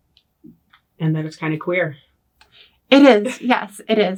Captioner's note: laughs